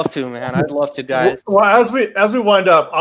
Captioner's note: laughs